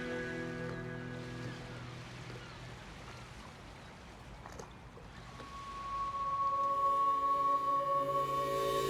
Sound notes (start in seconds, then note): 1.8 gulls calling; 5.5 dissonant instrumental music